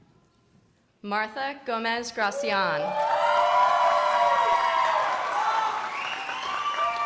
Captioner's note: crowd applauding